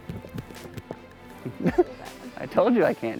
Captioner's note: indiscernable sounds of disgust